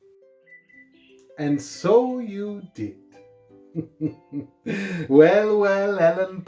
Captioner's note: laughing